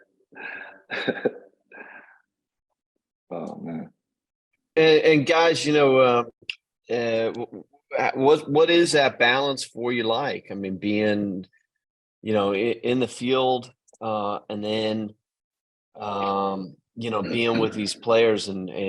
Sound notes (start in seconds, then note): 0.4 laughs